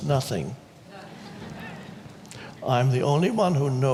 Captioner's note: audience laughs